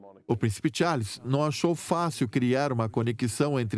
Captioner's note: voiceover